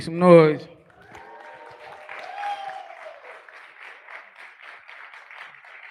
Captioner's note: cheering